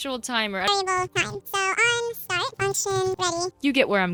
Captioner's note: sped up chatter